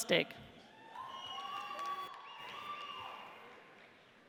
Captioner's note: audience cheers